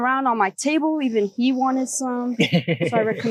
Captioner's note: laughter